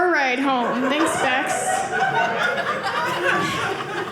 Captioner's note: audience laughing